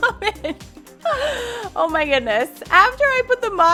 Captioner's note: laughing